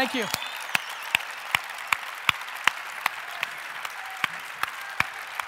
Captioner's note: audience cheering